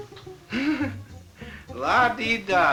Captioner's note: laughing